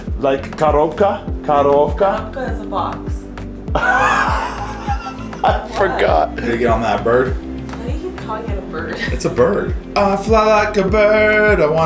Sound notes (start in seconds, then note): 3.7 laughs